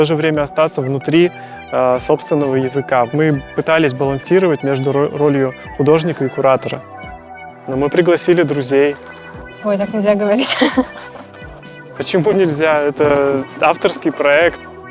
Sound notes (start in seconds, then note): 10.3 laughs